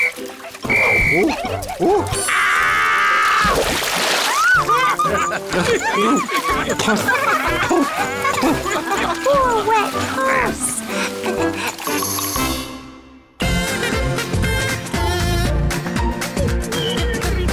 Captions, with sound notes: (blows whistle) Ooh... ooh... (screams) (laughter) Poor wet Puss.